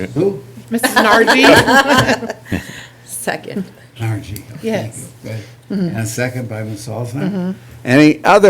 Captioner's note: laughter